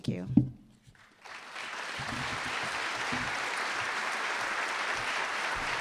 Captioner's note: applause